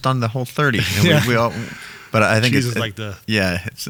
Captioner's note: laughs